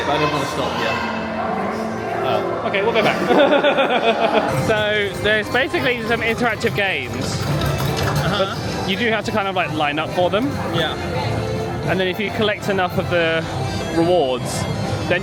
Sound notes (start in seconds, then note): 2.9 laughs